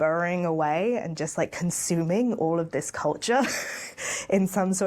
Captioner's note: laughing